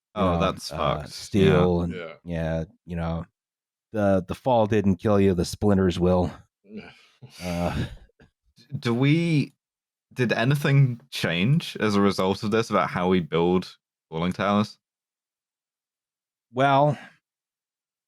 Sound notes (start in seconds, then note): 7.5 weak laughter